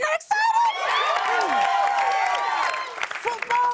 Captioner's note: cheers and applause